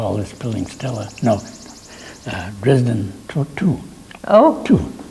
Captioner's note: laughs